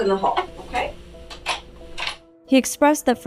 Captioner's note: door opens